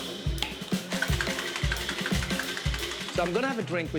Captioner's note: ice shaking